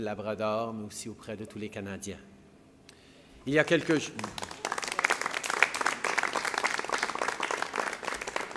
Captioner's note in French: Applaudissements